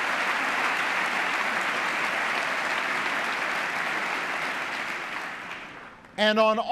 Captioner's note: applause